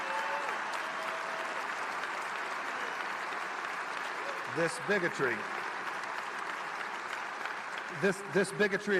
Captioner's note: applause